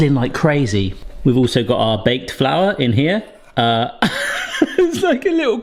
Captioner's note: laughs